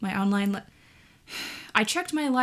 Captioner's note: deep sigh